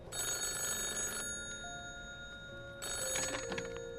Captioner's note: phone continues ringing